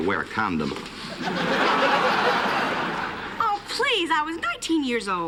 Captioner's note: laughter